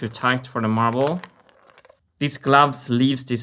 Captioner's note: marble rolling